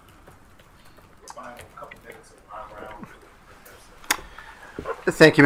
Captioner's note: speaking faintly